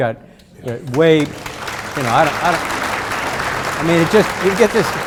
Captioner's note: audience applauding